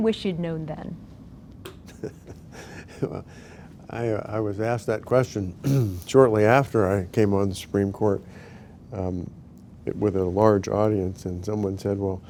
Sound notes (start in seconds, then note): 1.8 laughs